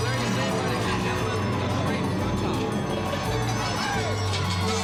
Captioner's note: crowd cheering